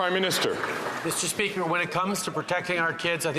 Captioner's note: some Applause